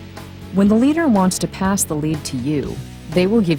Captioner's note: voiceover